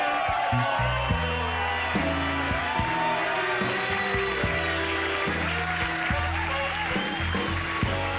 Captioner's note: cheers and applause; music and fanfare